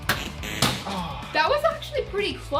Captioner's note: bottle drops